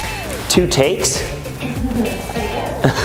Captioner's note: static; laughs